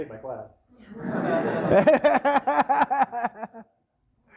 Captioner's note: laughter